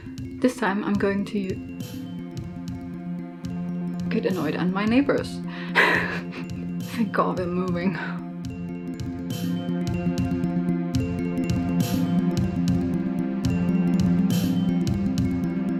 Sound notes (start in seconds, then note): 5.7 laughs